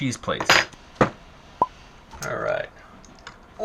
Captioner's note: popping